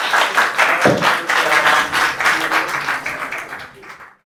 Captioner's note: applause